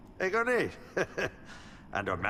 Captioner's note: speaking in foreign language